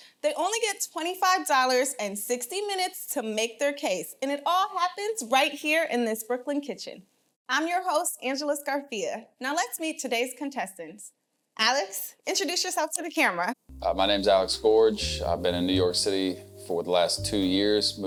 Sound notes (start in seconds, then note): none